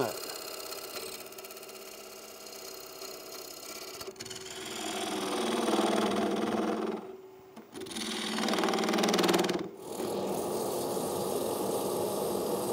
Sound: machine humming; rattling

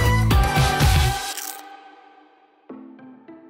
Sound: crunch sound

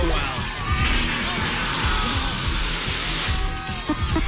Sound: alarm sounds

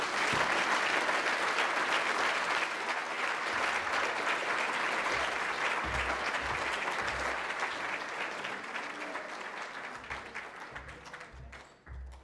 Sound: applause

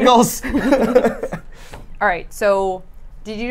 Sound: laughs

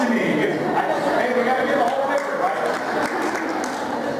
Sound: applause

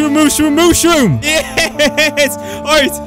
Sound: laughing

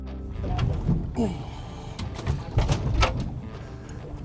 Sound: grunts

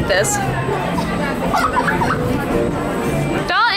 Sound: giggling

